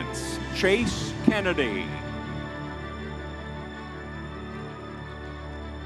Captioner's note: crowd cheering